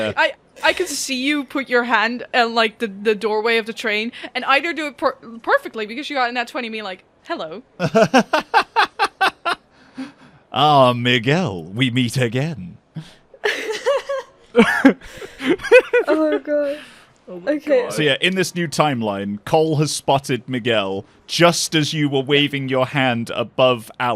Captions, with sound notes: Yeah, yeah. Yeah. I can see you put your hand at the doorway of the train, and either do it perfectly cause you had a nat 20, being like, "Hello!" (Laughs) "Ah, Miguel, we meet again." [Laughter] Oh my god. Okay. So yeah, in this new timeline, Kol has spotted Miguel just as you were waving your hand above